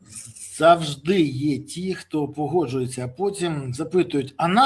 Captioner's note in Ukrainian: сопіння